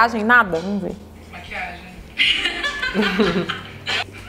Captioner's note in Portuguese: risos